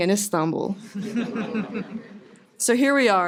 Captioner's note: laughter